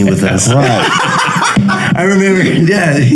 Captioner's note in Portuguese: risos